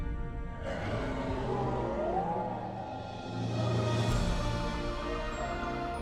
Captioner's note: dinosaur roaring; gentle inspirational music